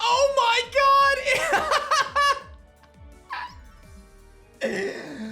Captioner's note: laughs